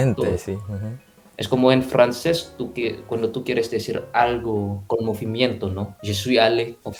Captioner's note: Spanish